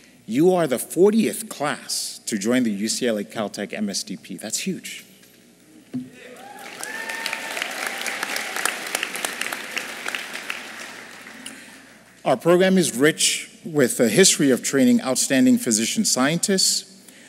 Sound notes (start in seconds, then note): 6.2 applause